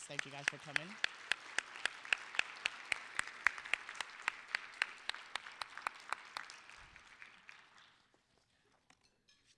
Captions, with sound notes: THANK YOU, GUYS, FOR COMING. (applause)